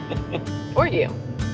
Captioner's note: laughs